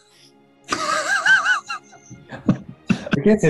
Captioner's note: sniggering